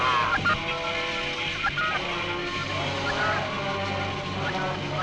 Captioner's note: Robert screams; equipment beeping